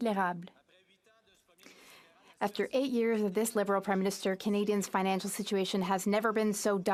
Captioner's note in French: voix de l'interprète